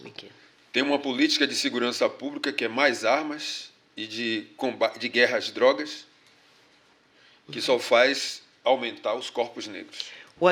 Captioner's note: speaking portuguese